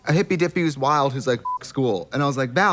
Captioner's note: beep